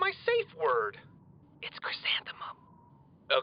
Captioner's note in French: chuchote